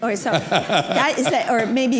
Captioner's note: laughter